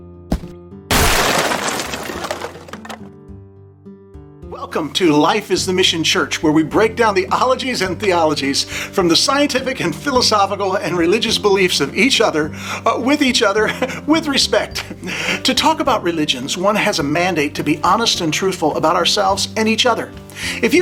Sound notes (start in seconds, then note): 0.9 wood clattering